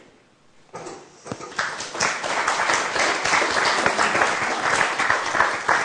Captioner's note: applause